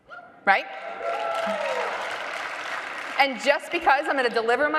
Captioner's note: audience applauding loudly